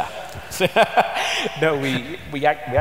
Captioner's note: laughter